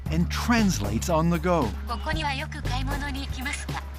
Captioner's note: computer voicing translation in Japanese; speaking Japanese